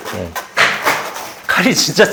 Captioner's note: clack